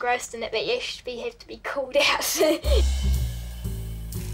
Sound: laughs

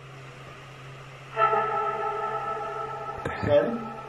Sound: female voice

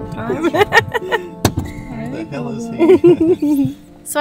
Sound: laughing

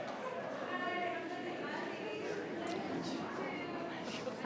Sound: people chattering

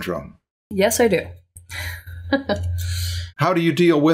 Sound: laughter

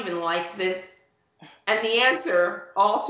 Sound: laughing

